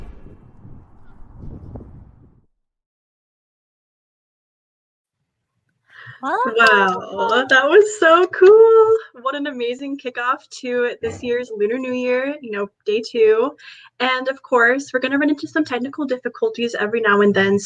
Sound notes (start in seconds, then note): 6.6 claps